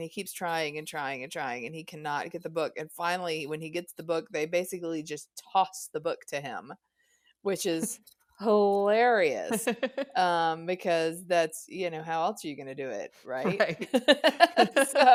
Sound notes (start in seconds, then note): 9.5 both laugh; 9.5 laughs